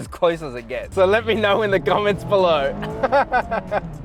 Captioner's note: laughs